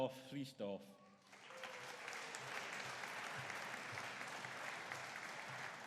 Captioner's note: audience applauding